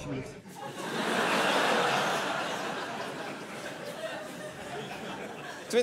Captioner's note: laughter